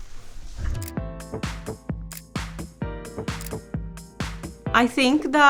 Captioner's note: camera shutter clicking; upbeat music